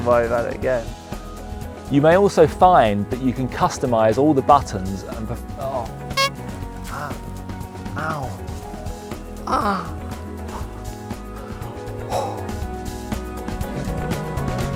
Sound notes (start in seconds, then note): 9.4 girly grunts of pain